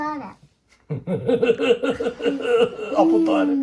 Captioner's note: is laughing